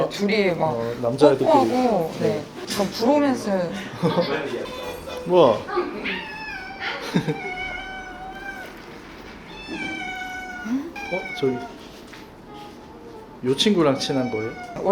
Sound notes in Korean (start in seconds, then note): 6.2 아아앙